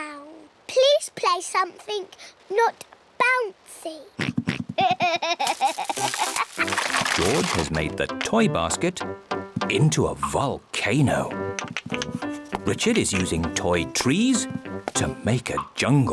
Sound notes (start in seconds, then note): 4.2 oinks and giggles